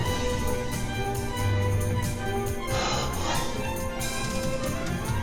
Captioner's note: gasping for breath